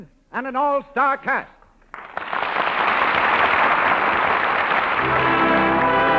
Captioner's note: applause